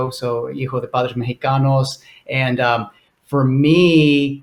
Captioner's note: foreign language